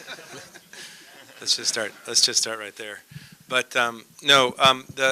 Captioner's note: laughter